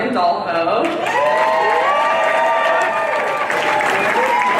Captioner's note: applause